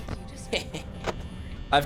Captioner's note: laughs